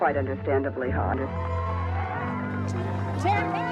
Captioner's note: people cheering